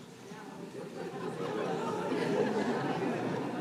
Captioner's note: laughter